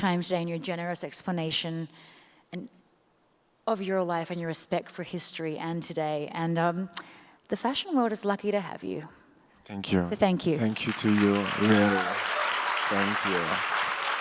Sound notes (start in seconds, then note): 10.6 audience applauds